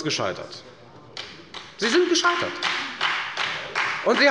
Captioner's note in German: Beifall bei der FDP und der SPD